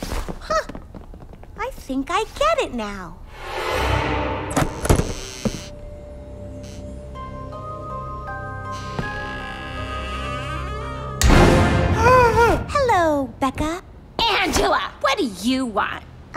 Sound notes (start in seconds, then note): 4.5 door creaks; 11.6 gasps